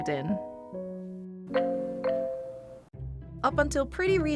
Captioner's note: phone notification